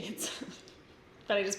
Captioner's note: giggles